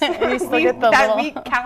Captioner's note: laughing